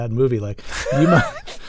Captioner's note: laughter